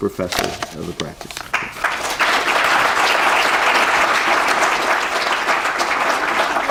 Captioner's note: applause